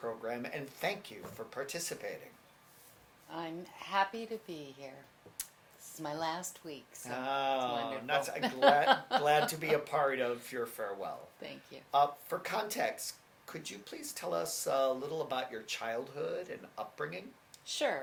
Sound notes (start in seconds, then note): 8.2 laughs